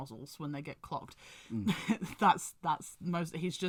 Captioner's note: laughs